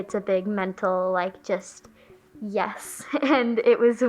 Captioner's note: laughing